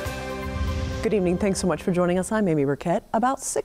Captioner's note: upbeat music; air whooshing